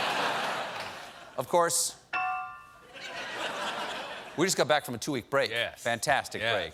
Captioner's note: laughter; piano riff